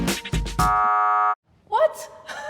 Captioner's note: buzzing